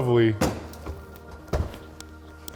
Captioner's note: drawer clinking